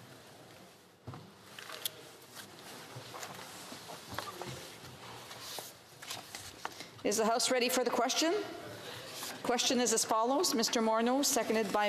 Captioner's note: speaking French